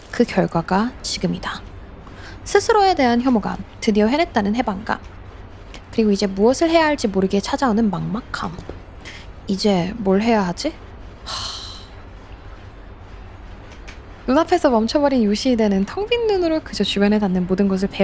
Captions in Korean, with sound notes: 그 결과가 지금이다. 스스로에 대한 혐오감 드디어 해냈다는 해방감. 그리고 이제 무엇을 해야 할지 모르게 찾아오는 막막함. 이제 뭘 해야 하지? [한숨] 눈앞에서 멈춰버린 유시이대는 텅빈 눈으로 그저 주변에 닿는 모든 것을